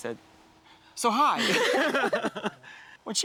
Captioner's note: both laughing